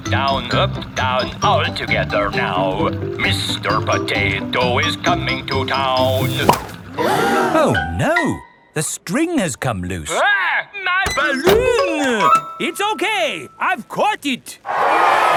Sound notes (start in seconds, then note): 6.9 all gasp